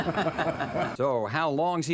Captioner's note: laugh